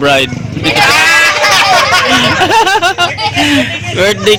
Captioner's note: laughing